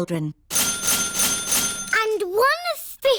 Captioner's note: dinging